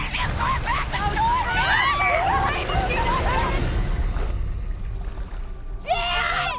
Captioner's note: indistinct screaming